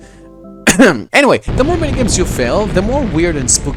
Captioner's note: clears throat